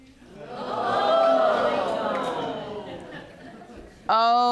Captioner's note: audience gasping